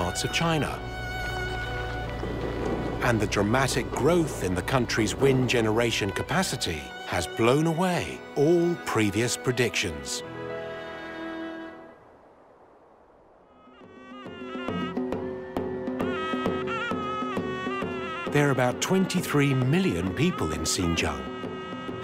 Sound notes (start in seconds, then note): 13.7 horn blowing, drums beating; 14.1 crowd cheering